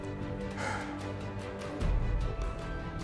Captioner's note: exhaling